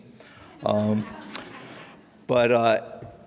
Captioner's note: audience reacts